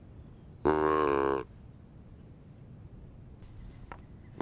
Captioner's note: deer call honking